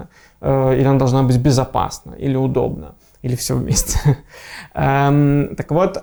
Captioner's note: laughing